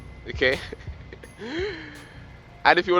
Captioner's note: laughs